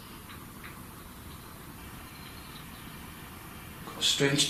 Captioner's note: light tapping